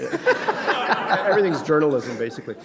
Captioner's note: laughter